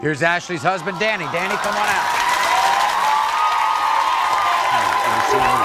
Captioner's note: audience cheers